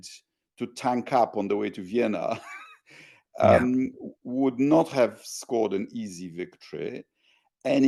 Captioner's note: laugh